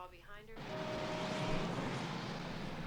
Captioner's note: horn honking